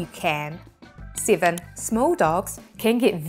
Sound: graphics clicking

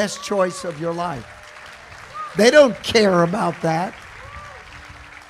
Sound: congregation applauding

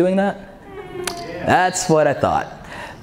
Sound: audience laughs

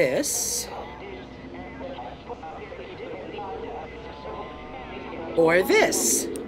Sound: distorted sounds

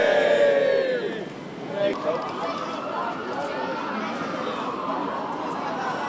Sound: cheering; crowd

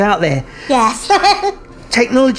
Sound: laughs

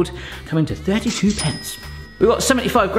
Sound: bell dings

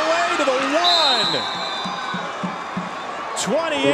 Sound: whistle

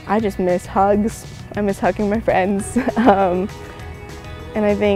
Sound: chuckles

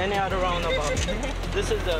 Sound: laughs

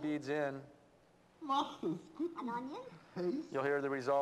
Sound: foreign language spoken in various pitches

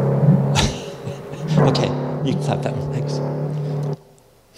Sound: laughs

